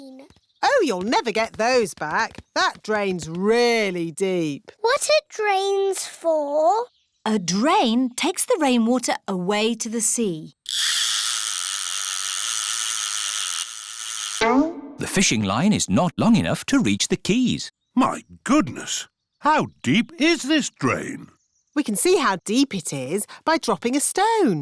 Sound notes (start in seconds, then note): none